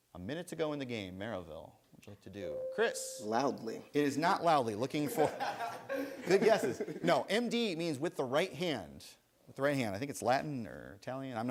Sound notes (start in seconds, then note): 2.8 buzzer sounds; 5.0 laughter